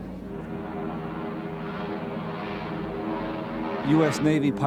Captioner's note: airplanes buzzing; tense music